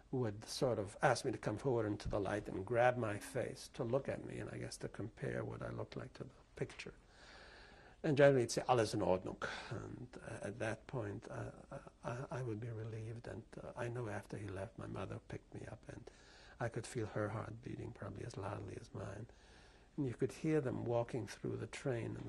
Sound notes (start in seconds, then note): 9.3 german